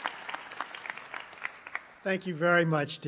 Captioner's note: applause